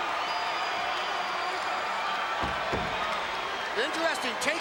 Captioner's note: crowd cheering